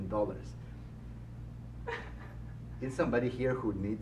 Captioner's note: laughs